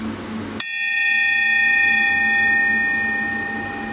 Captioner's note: rings bell